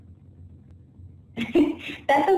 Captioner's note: laugh